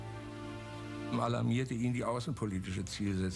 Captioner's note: speaking in German